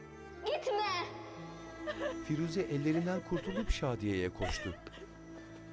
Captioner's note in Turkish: Ağlama sesi